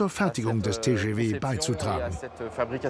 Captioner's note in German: Gespräch auf Französisch